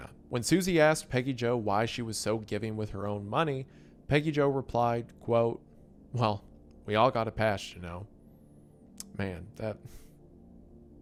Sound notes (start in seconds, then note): 9.0 clicks tongue